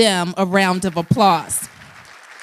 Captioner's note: applause